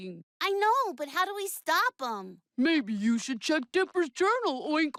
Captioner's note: deep voice; normal voice; deep voice